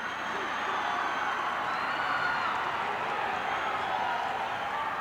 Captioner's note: crowd cheers